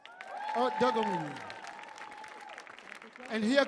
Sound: audience cheering; audience clapping; man speaking in language other than English

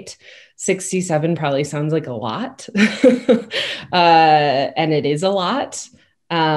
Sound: laughs

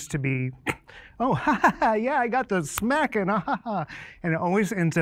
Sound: laughs

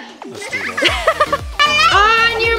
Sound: laughs

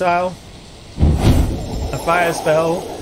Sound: force missile whoosh

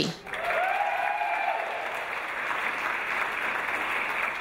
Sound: audience applause

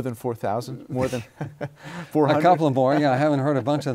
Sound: laughs

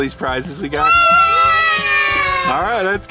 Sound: everyone screams yes

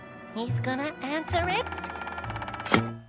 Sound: ringing

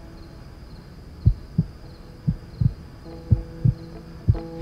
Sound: Mico's heart beating

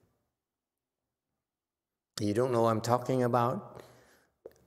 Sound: none

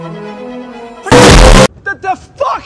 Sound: thomp

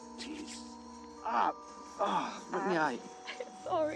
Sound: exclaiming

